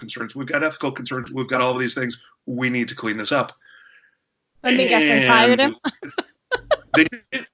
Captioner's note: laughs